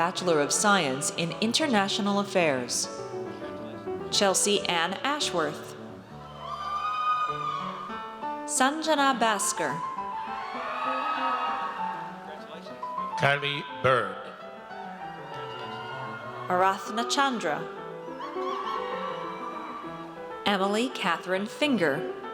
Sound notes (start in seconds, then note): 6.2 audience cheers; 10.0 audience cheers; 14.8 audience cheers